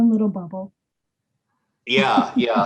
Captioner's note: chuckles